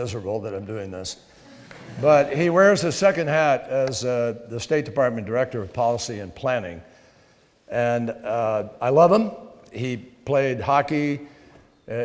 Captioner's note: laughter